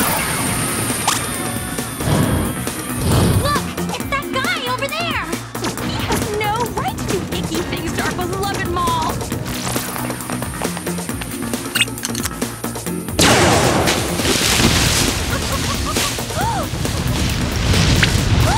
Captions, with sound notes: [laser shooting] Look! It's that guy over there. He has no right to do icky things to our beloved mall. [laser shooting]